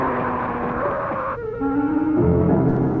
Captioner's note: screaming